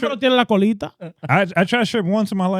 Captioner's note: speaking In Foreign Language